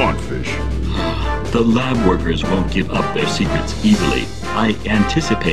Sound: sighs

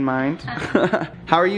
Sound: chuckles

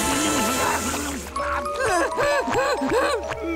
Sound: groaning

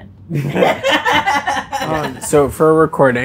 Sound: laughing

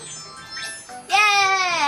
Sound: bells chiming

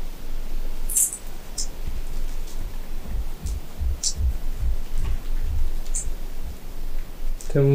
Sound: the sound of some steps

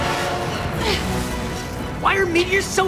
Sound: grunting

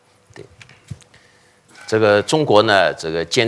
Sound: speaking chinese

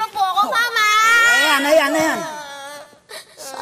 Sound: whines

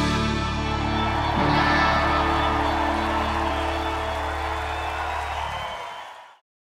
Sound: crowd cheering; crowd applauding

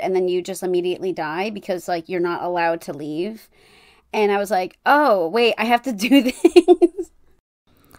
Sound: laughing

